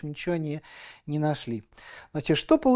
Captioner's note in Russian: none